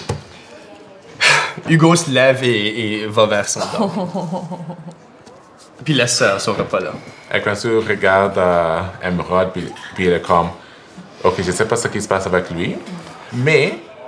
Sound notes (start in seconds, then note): 1.2 sigh; 3.5 Émeraude laughs